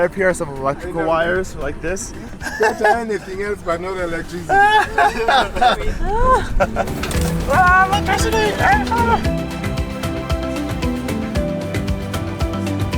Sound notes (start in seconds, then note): 4.4 everyone laughing amusingly; 9.1 feel-good music continues